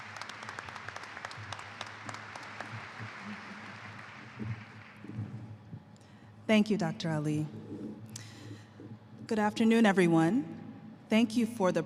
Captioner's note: applause